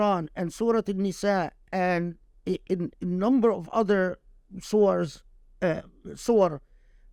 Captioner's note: speaking Arabic